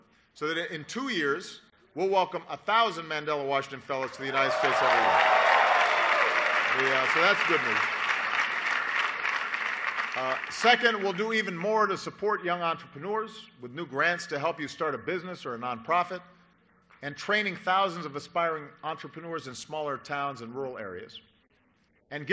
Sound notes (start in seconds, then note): 7.3 applause